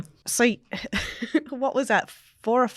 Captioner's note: laughs